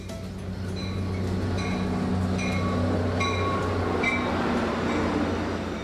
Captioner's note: crossing bells dinging; train whirs